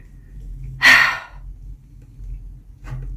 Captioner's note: sigh